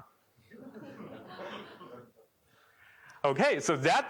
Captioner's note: laughter